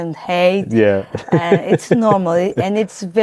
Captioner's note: laughs